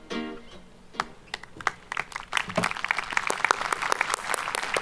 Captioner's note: audience applauding